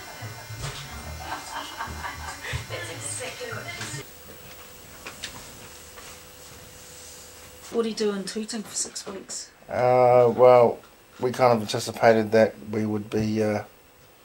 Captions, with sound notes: - (CHUCKLES) That's exactly what she said. - What do you do in Tooting for six weeks? - Uh, well, we kind of anticipated that we would be...